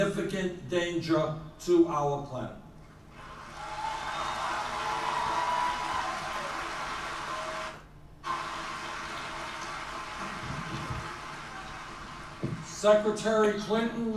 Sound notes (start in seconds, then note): 7.8 applause